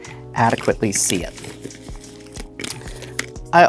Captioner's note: tiles clattering